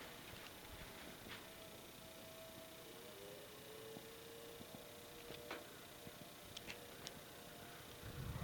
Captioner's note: siren continues